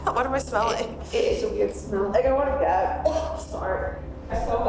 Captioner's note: coughs